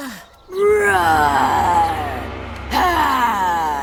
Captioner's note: roaring